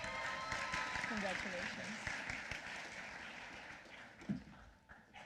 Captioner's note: applause